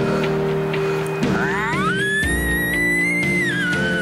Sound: bugling

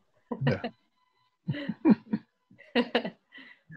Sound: laughs

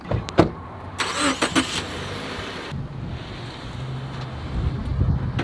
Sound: car engine revving

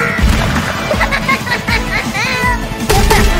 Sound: kit's demonic laugh

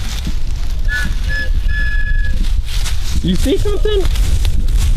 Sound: blowing whistle

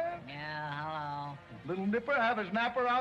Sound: none

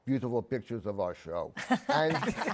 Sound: laughter

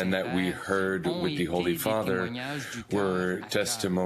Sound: speaking French

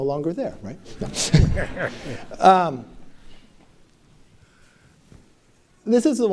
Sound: laughter

